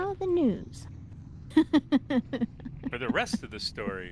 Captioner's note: laughing